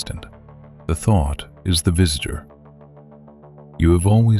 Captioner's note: low voice